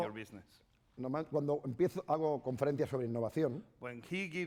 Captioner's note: speaking spanish